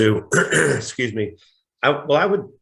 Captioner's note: coughs